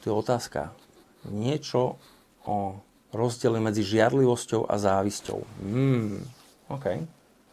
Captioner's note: hums